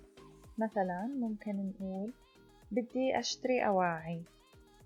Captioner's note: in Arabic